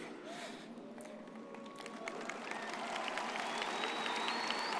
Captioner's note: audience cheers